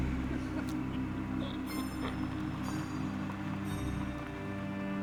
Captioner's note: eerie music; car rumbling